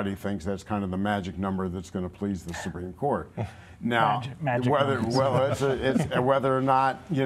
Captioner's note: laughter